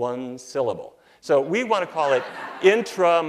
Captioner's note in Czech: Smích